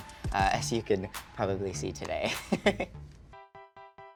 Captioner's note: laughs; gentle music